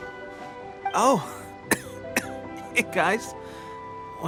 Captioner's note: cough